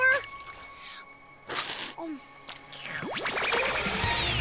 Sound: slurps

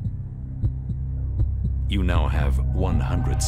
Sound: heartbeat thuds

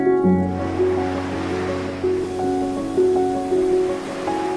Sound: wind blowing; water splashing

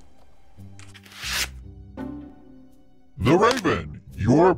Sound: mysterious music; paper whooshing

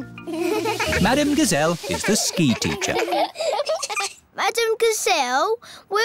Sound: laughing

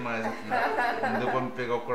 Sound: laughs

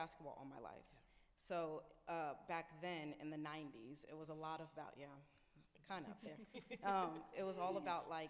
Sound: laughs

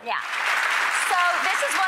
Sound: applause

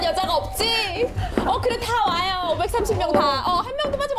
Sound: footsteps of the remaining 137

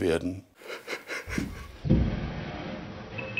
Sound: he chuckles

